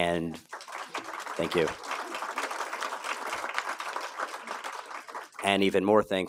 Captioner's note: applause